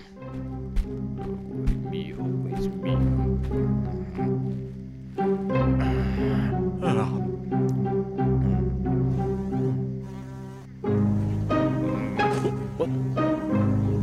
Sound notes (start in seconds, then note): 0.3 מוזיקה מתוחה; 9.4 זמזום זבוב